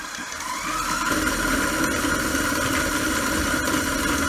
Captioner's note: mixer buzzing